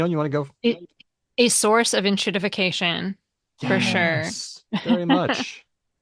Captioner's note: laughs